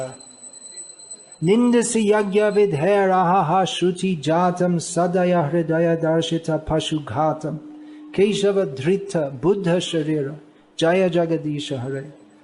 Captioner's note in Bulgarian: санскрит